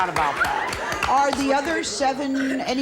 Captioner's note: audience applauds